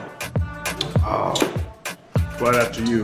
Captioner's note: groans